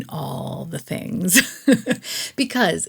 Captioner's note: laughs